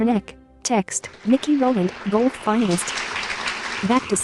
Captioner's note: applause